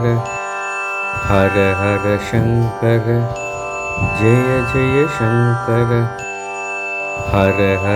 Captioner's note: bell